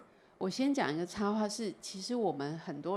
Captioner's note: Mandarin